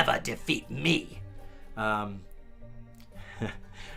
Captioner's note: rire